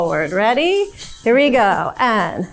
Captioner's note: hip scarf jingling